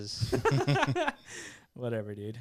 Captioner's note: laughing